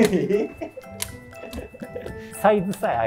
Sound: laughing

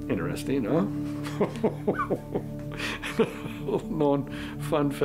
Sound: chuckles

